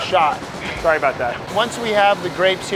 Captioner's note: machine buzzing